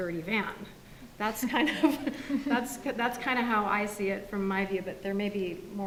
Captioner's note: laughs